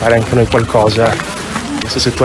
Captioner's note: steps